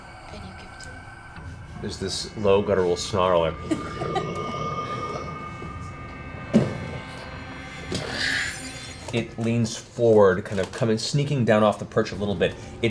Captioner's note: snarls